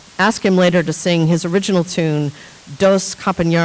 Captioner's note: speaking in foreign language